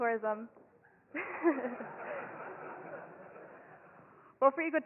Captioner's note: audience laughs